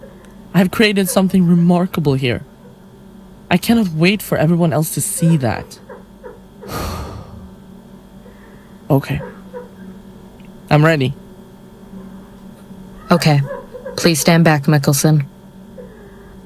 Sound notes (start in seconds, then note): 6.6 loud exhale